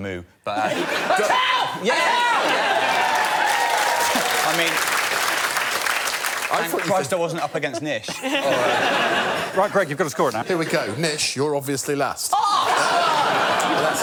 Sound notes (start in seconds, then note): 1.1 cheering and applause; 2.6 applause; 12.6 laughter